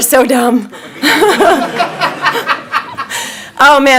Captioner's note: laughing